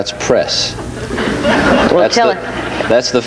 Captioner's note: audience laughs